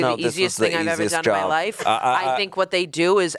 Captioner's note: chuckling